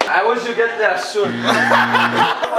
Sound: laughter

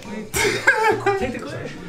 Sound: laughter

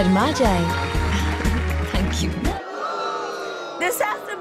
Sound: audience boos

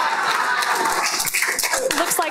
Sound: everyone laughs; applause

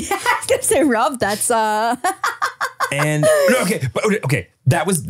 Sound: laughs

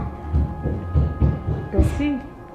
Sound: footsteps

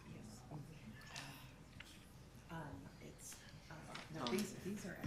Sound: none

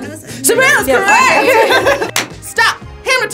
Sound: all laugh

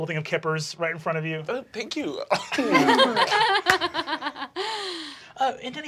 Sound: laughing

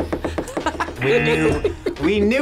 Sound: buzzer

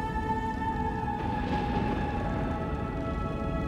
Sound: thunder rumbling

